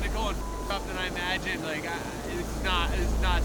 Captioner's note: beeps